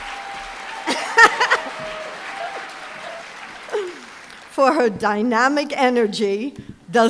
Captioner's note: laughs